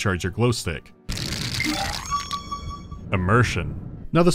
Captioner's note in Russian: тресь-тресь, динь